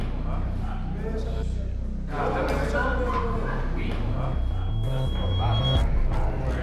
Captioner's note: chatter